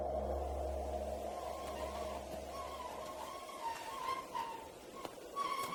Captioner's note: plants rustling; wheelbarrow squeaking